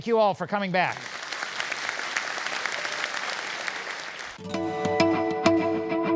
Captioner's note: applause